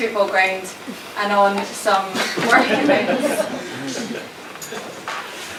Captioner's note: audience chuckling